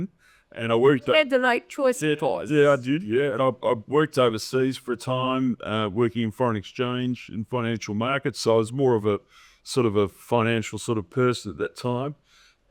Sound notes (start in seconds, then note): none